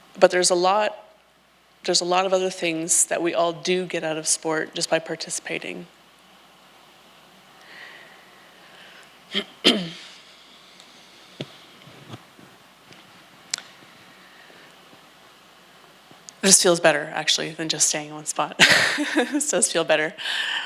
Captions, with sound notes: But there's a lot of other things that we all do get out of sport just by participating. It just feels better actually than just staying in one spot. (laughs) It does feel better.